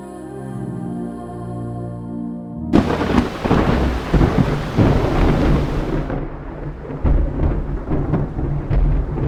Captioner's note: thunder and rain